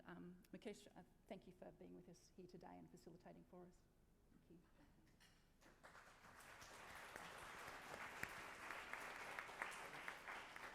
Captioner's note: applause